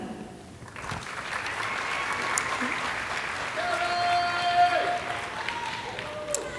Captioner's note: audience applauding and cheering